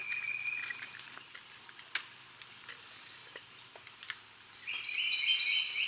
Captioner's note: several birds chirping loudly